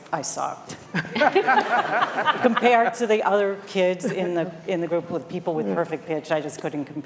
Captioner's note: laughter